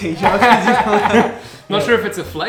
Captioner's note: laughs